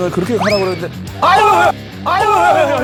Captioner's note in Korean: 후우